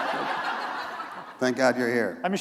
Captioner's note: laughter